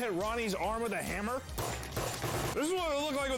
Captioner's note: hammer smacks